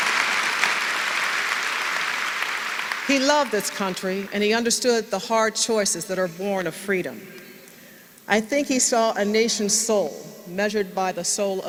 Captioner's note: applause